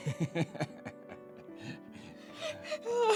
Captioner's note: sigh